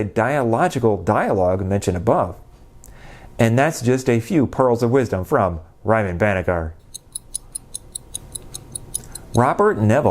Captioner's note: clock ticking